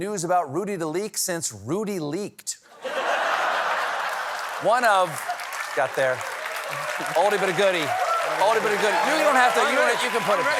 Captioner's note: laughter